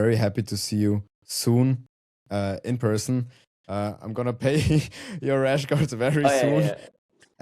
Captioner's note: chuckles